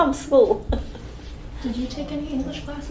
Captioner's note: laughs